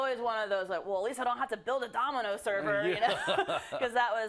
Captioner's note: laugh